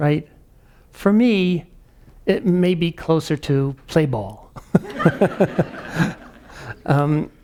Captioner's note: laughs